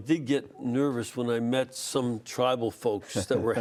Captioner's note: laughter